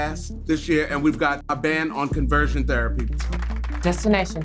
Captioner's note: all clapping